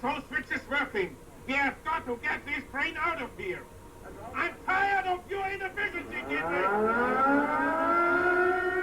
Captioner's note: air raid siren sounds